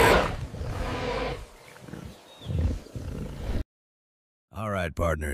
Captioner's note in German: Dinosaurier-Brüllen